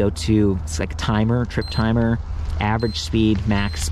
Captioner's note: bike beeps